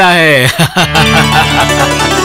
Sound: laughs

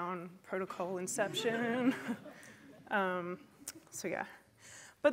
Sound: laughter

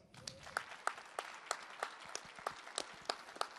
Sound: applause

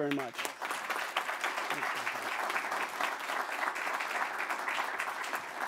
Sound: applause

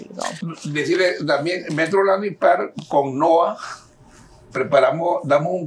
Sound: speaking in Spanish

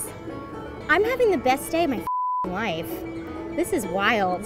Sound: beeps

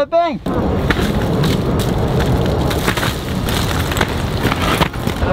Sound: branches crack

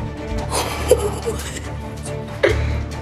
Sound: chuckling

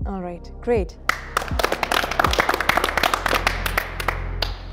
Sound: all clapping

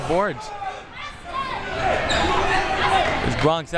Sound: crowd members shouting

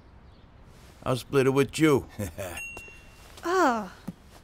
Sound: chuckles

